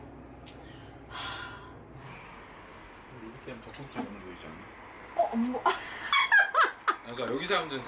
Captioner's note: then a sound of laughter could be heard from behind